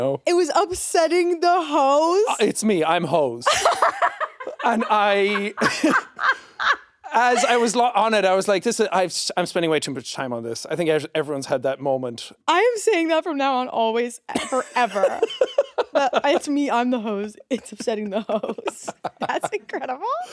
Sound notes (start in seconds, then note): 3.4 laughing; 3.5 chuckles